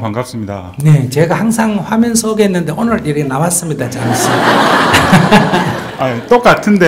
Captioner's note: audience Laughter